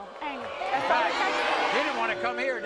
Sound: audience boos

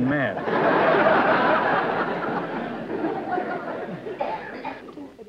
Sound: laughter

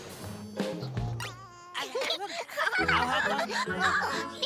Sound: laughing

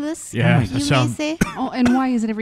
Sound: coughs

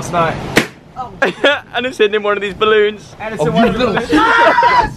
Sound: balloon pops

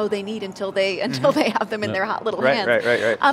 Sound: laughs

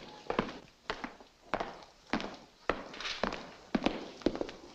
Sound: footsteps echoing

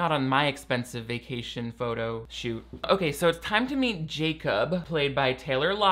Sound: none

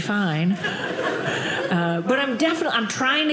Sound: audience laughing

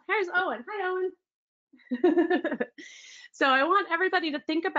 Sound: laughs

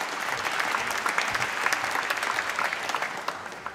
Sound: applause

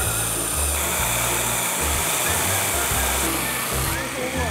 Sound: buzzing noise

